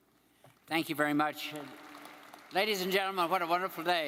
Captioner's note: crowd applauding